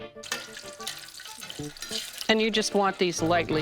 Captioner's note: food sizzling